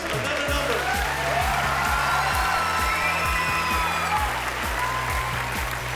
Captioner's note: cheering and applause